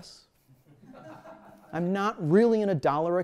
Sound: laughter

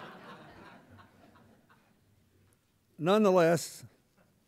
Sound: laughter

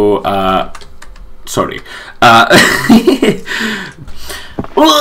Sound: laughs

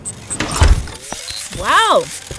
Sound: machine whirrs

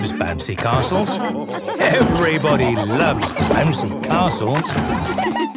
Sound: laughter

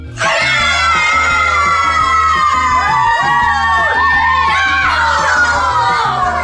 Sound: cheering

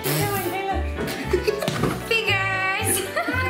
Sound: kids laughing

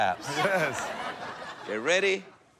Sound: laughter

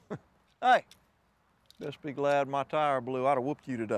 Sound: laughs

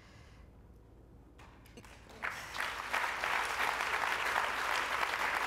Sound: applause

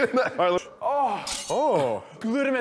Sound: laughs; sighs in pain

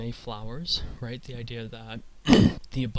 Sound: clears throat

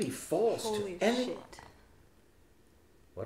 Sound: Hamlet whispers

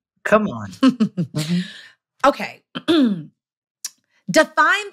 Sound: laughing

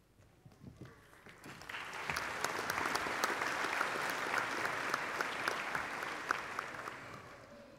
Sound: applause

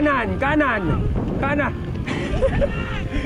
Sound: shouting

